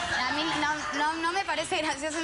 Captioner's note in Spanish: risas